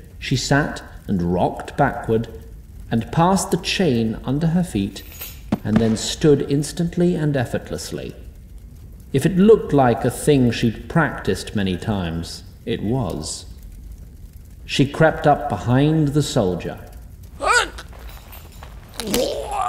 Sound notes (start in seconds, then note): 17.4 chokes